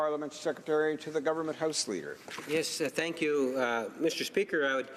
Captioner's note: speaking French